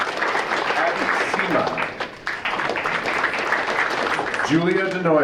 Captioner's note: audience applauding